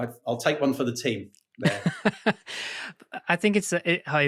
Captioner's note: laughing